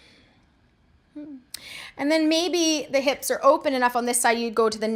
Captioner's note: breathing noises